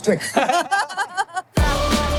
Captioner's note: all laughing; upbeat music